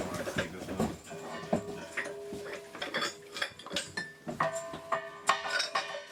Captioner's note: oxygen bottles clanging